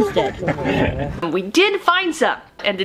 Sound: laughter

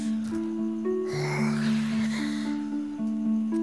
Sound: breathes deeply

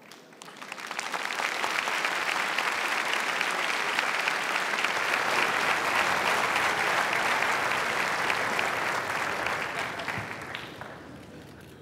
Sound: applause

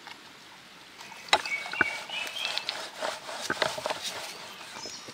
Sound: birds singing

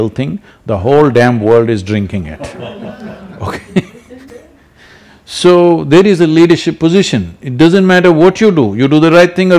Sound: laughter

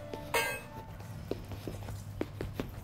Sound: dribbling

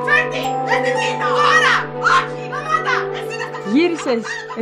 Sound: arguing continues

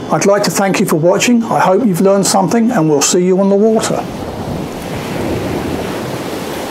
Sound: waves crashing

